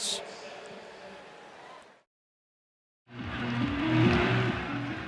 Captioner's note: pa announcement